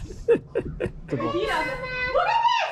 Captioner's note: speaker laughing